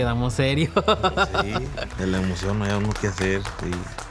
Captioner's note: laughs